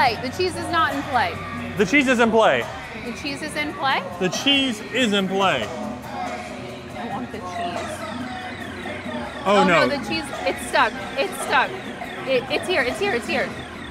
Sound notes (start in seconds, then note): 7.2 machine warbling